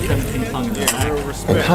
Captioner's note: cheers